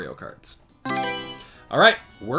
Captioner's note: Mario Selection Sound